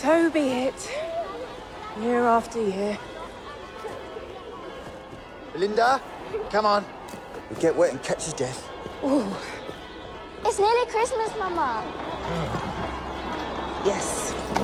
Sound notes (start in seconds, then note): 3.7 children clamoring